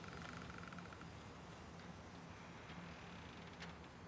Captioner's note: door creaking